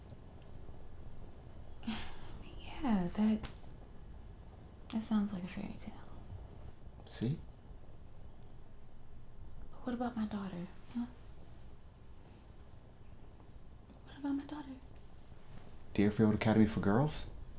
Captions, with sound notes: - (sighs) Yeah, that, that sounds like a fairytale. - See? - But what about my daughter, huh? What about my daughter? - Deerfield Academy for girls.